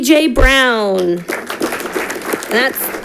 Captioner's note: audience clapping